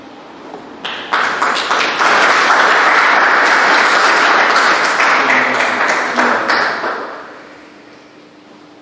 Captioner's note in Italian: Applausi